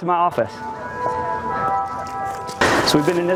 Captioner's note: bells tolling